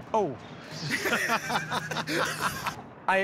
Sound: laughter

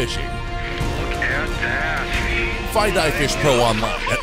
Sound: voiceover

